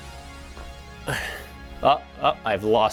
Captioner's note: sharp upbeat music; exhales deeply